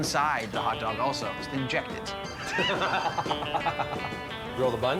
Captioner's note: laughs